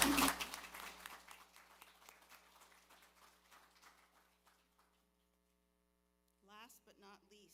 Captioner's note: applause